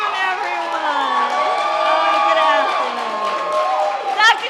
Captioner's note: applause